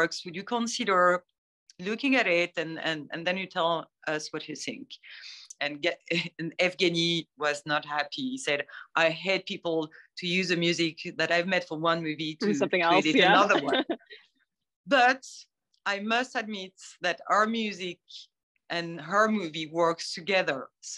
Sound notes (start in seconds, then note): 12.9 laughter